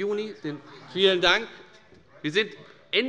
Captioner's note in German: Zuruf